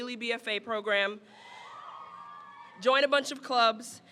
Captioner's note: crowd cheers